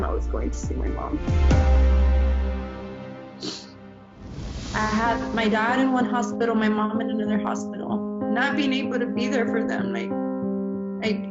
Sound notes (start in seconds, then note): 1.1 dramatic note; 4.1 air whooshing